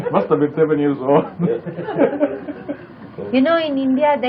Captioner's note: laughter